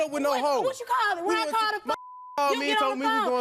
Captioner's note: beep